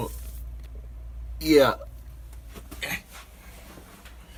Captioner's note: grunts